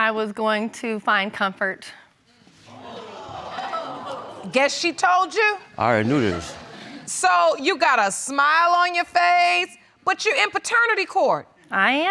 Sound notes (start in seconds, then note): 2.8 audience gasps